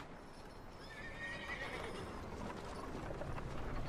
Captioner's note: none